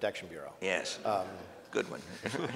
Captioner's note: laughs